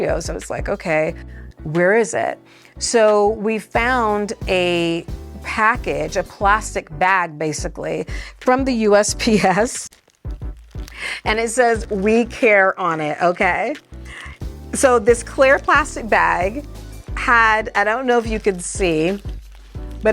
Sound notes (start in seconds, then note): 9.9 chuckles